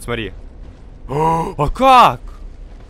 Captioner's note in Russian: сильный вздох